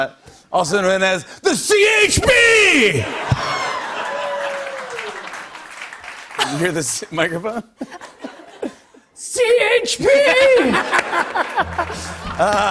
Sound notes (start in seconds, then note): 3.0 laughter and applause; 10.3 laughter